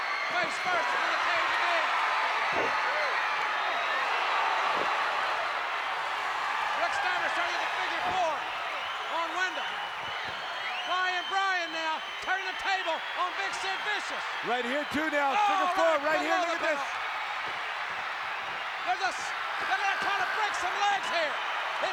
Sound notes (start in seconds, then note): 2.1 applause